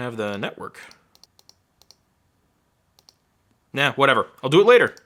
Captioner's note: mouse clicking